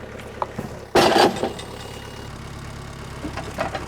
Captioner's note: wood crashing down; engine running calmly